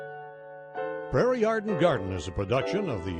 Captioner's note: gentle music; voiceover